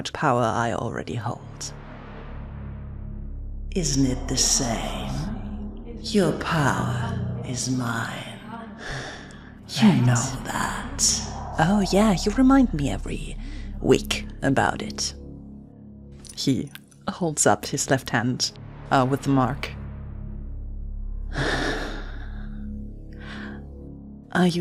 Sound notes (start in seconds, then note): 3.8 echoing; 8.4 sighs; 10.0 echoing